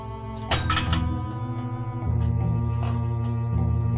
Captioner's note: pipe clatters